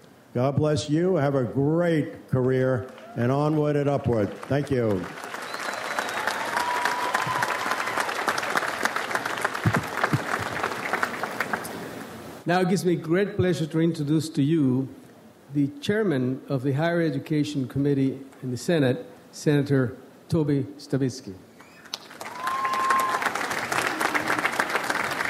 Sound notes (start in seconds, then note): 5.3 audience applauds; 21.6 audience applauds